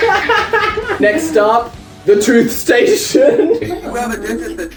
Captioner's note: both laugh; laughs; cracks up